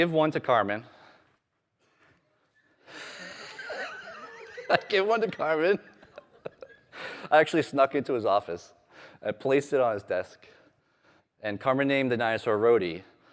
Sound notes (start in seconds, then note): 7.5 laughter